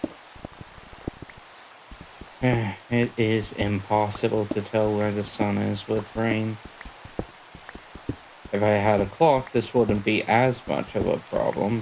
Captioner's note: sigh